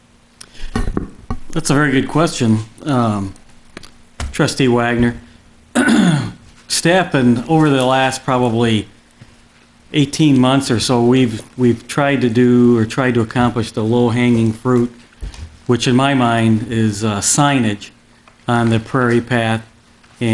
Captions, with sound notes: - That's a very good question, Trustee Wagner. (clearing throat) staff and over the last, probably 18 months or so, we've tried to accomplish the low-hanging fruit, which in my mind is signage on the Prairie Path